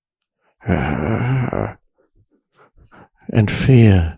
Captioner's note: groans